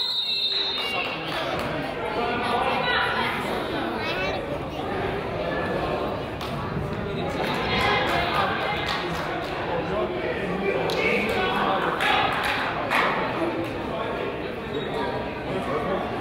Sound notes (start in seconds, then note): 0.0 whistle blows; 0.3 crowd chatters; 7.6 crowd chatters and laughs; 7.6 person claps